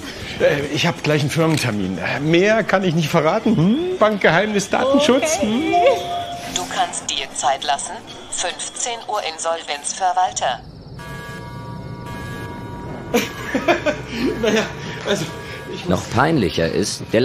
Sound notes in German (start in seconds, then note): 13.1 laughs